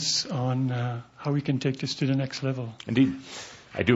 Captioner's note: none